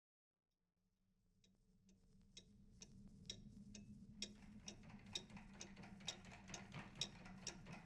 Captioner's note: clock ticks; multiple clocks tick